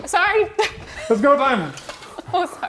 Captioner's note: chuckles